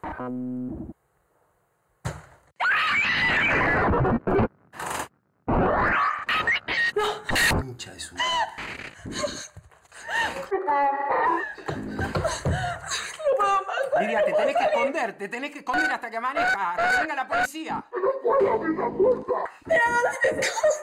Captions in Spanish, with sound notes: (GRITOS) ¡No! La concha de su madre. (Voces distorsionadas) No puedo más, no puedo salir. Te tenés que esconder. Te tenés que esconder hasta que amanezca. A que venga la policía. No puedo abrir la puerta.